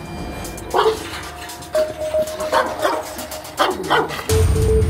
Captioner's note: suspenseful music; barking sounds and suspenseful music